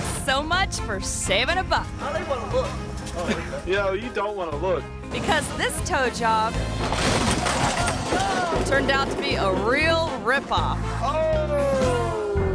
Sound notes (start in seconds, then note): 5.0 bumper creaks